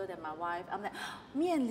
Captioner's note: gasp